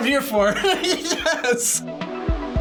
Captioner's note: laughs